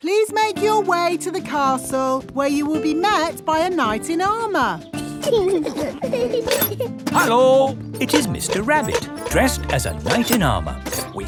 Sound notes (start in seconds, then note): 5.0 children giggling